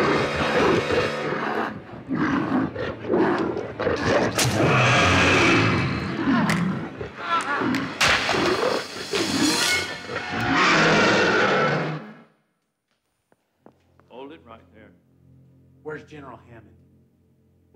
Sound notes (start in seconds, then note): 6.4 Donald growls; 6.4 bone cracks